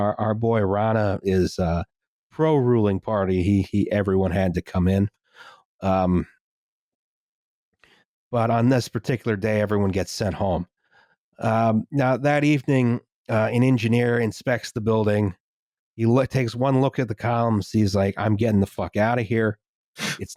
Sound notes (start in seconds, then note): none